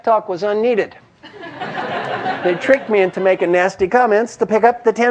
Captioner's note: laugh